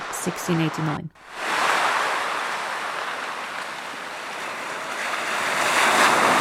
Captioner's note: foamy sea sounds